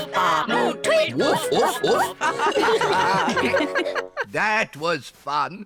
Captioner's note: all giggle